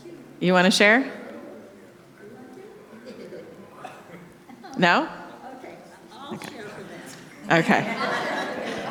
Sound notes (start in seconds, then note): 1.7 audience chattering; 6.4 audience laughing